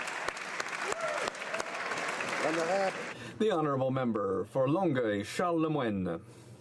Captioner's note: some Applause